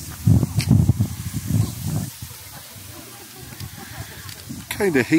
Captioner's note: wind blowing